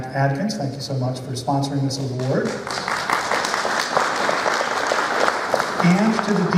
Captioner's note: applause